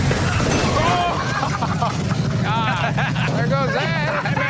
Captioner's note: chuckles